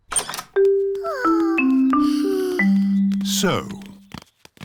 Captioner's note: peppa and george sigh